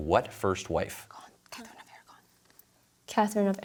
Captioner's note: whispers